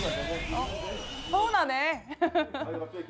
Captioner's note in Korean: 웃음